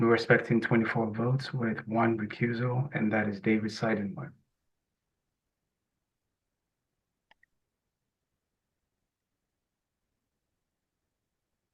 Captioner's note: pause